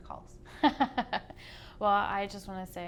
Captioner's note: laughs